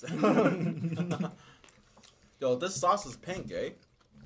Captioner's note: laughing